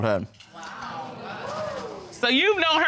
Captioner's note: audience exclaiming